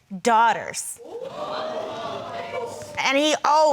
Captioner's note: crowd gasping